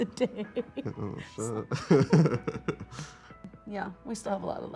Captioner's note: chuckles